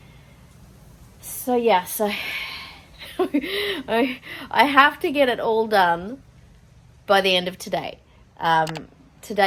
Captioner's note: laughing nervously